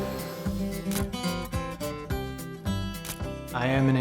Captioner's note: camera shutter clicking